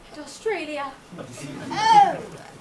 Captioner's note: audience laughs